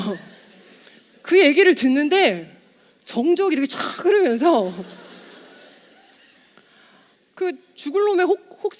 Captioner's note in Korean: 웃음